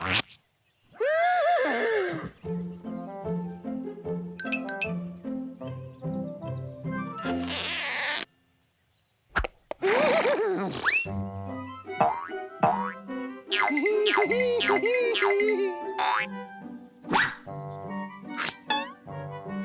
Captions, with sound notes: (neighing) (laughing) (boing boing) HEE HEE, HEE HEE, HEE HEE, HEE HEE!